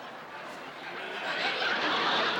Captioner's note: laughter